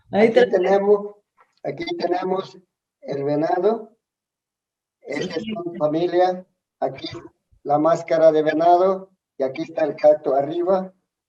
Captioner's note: speaks in Spanish